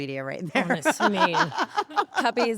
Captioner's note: laugh